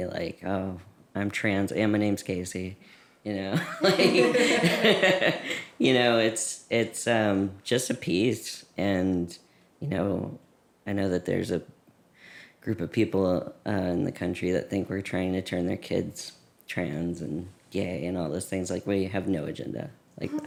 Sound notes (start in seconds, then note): 3.5 laughter